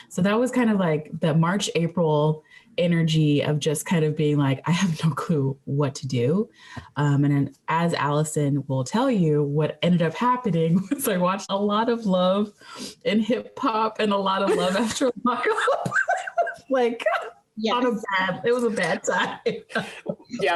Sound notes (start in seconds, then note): 14.4 laughing